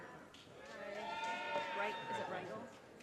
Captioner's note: audience cheers and applause